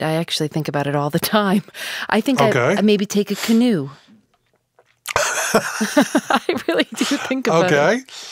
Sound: both laugh

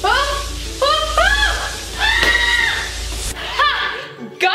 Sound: screams

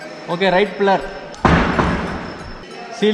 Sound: banging noise

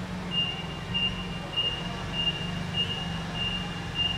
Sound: beeping

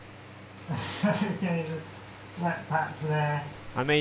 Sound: laughs

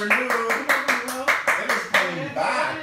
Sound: clapping

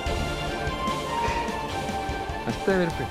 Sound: chuckles

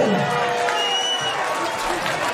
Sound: crowd cheering and whistling; clapping

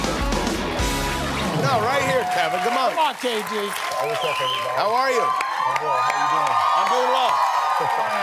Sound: cheers and applause

